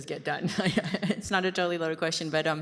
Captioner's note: chuckles